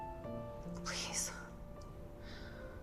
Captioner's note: whispering